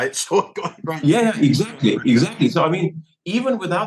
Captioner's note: laugh